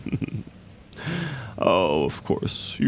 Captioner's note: he laughs quietly to himself